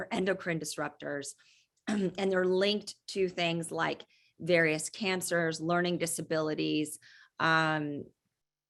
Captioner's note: cough